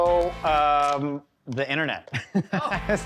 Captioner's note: laughs